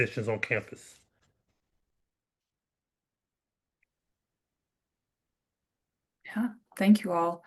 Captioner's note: silence